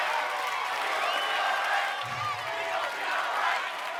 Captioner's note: audience cheers and claps; crowd